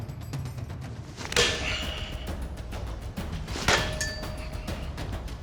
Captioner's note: chopping